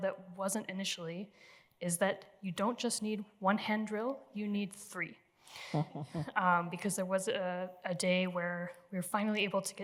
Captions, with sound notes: now that wasn't initially is that you don't just need one hand drill. You need three-- - [CHUCKLES] - --because there was a day where we were finally able